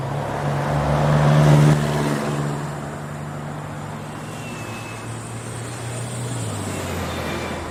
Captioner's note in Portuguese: Carros ao fundo